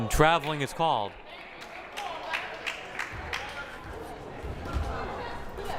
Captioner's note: crowd applauding; crowd murmuring